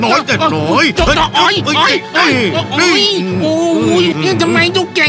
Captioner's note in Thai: ร้อง